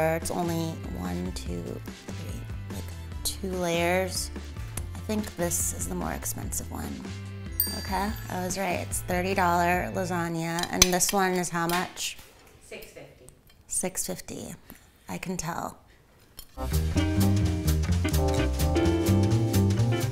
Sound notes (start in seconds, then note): 7.5 bell dings; 16.5 playful music